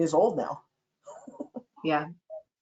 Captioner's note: laughter